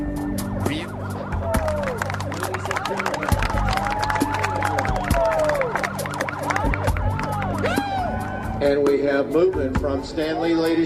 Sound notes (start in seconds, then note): 1.1 cheering and applauding; 5.3 siren wailing